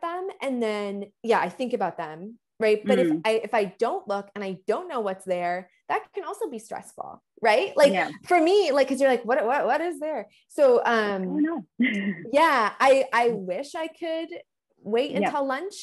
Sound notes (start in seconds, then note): 11.8 chuckles